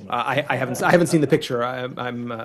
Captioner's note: laughter